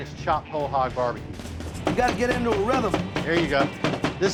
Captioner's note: chopping